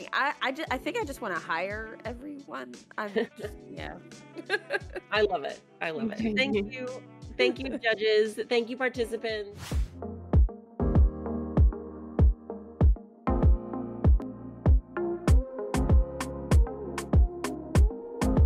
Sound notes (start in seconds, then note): 4.3 laughing; 9.6 whooshing; 10.5 upbeat music